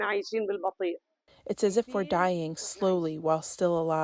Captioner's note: through translator